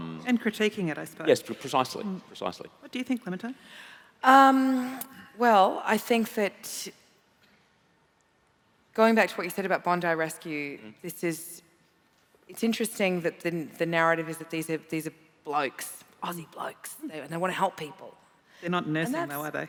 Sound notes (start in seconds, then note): none